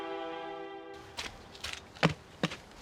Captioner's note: footsteps; knocking